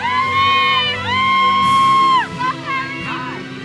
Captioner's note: audience cheers and applauds